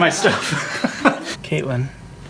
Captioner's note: laughs